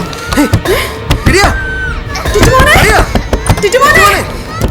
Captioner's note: children screaming